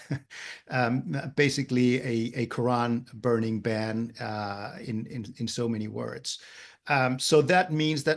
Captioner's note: laugh